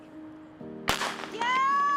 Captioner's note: gunshot